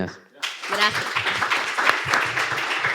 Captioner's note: applause